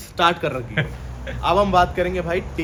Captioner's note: laughter